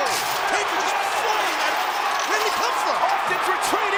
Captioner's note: presenter speaking faintly off mic